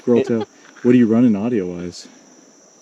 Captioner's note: team member laughing